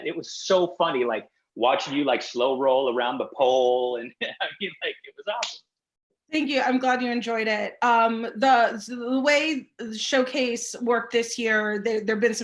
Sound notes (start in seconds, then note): 4.3 laughing